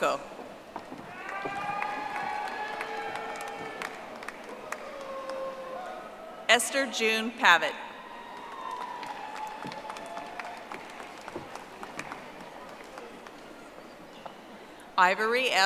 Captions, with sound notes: Sandy W. Orosco. (audience applauding) Esther June Pavet. (audience applauding)